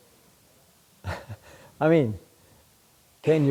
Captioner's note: laughs